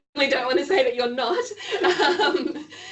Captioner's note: laughing